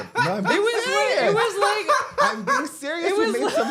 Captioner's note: zak cackling